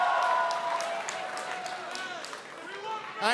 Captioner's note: cheers & applause